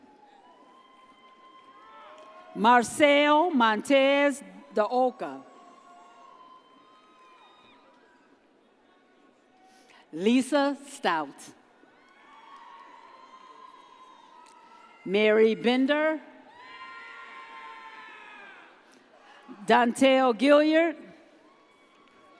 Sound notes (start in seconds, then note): 0.1 audience cheers; 12.2 audience cheers; 16.7 audience cheers